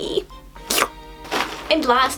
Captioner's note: slurp sound